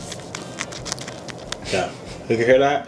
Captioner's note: crunching fish stick